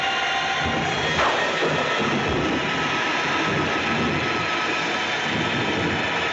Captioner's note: suspenseful music continues; lightning crashing